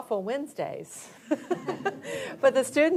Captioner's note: audience laughs